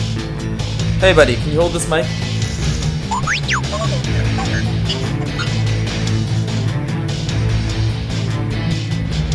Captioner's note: beeping